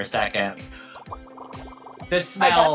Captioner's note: text burbling